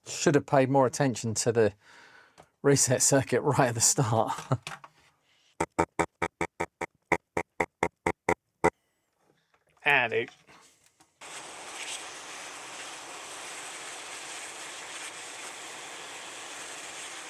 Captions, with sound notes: Should have paid more attention to the reset circuit right at the start. (Laughs) Add it.